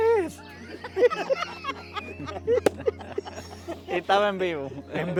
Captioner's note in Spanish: risas